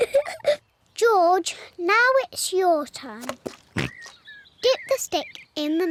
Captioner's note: both giggle; oinks